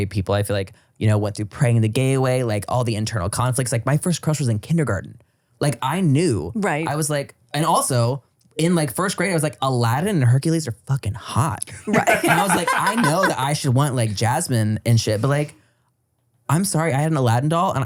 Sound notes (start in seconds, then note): 11.8 everybody laughs